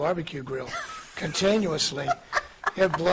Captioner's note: laughing